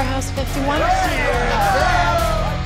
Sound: cheering

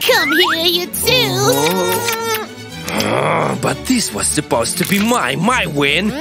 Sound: loud kissing sounds

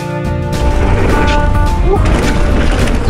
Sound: tires rumbling on the ground

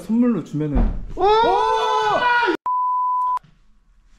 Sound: thud!!!!!!!!!!!!!!!

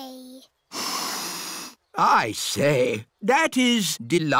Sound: sniffs

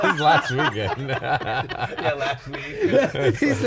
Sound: laughing

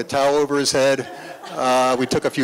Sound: laughter

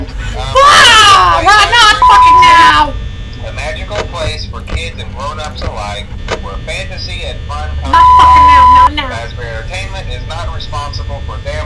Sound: freaking out

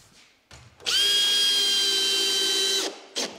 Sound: whirring

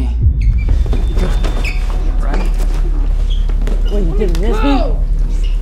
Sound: sneakers squeaking

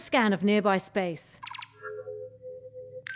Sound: scanning

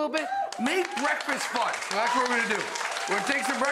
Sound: audience cheers

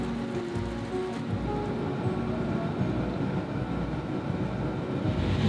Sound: car Departure at Signal

